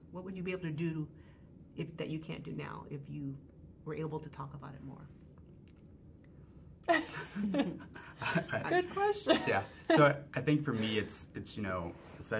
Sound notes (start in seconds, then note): 6.9 group chuckling